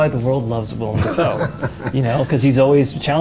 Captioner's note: Willem laughs